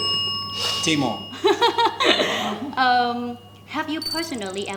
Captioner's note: rings the bell